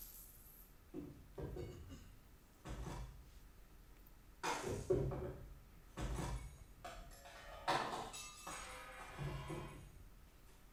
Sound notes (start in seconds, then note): 1.4 items clattering